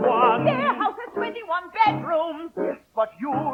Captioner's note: agitated